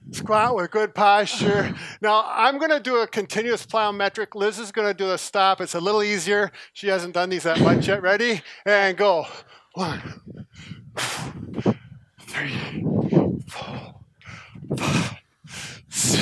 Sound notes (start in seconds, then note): 10.0 breathing